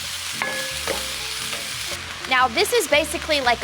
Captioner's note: pan sizzles